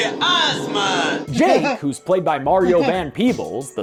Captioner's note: laughs